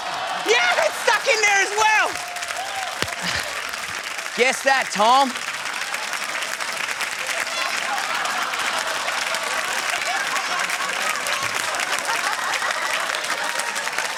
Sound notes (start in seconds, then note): 2.5 cheering and applause; 5.5 laughter and applause